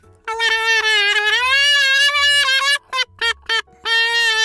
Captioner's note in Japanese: 叫び声